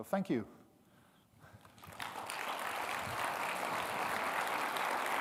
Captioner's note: audience clapping